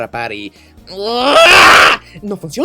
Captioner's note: scream of frustration